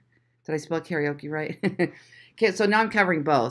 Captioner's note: chuckles